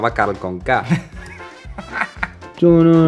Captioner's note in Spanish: Risas